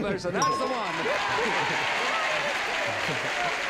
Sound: ding; applause and cheering

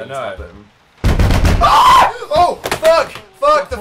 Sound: loud banging; crash of phone falling off desk; screams

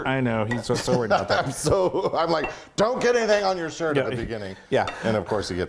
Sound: laugh

